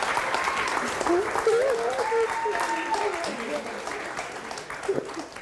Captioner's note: sobbing